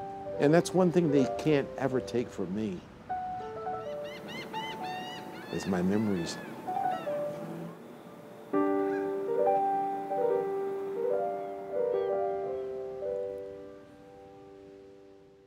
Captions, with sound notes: And that's one thing they can't ever take from me (ambient nature sounds) is my memories. (soft piano music)